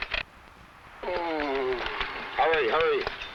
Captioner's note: man groans